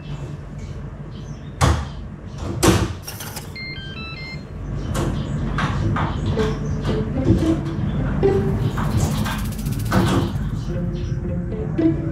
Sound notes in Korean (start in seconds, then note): 2.6 문 닫히는 소리; 3.0 문 잠기는 소리